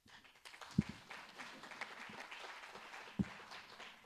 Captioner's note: audience applauding